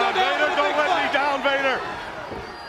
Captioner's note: crowd cheering